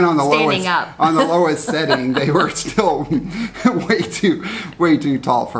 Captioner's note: chuckles